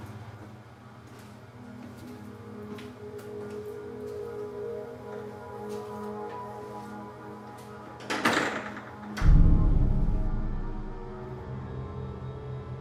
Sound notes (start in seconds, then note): 8.0 closes door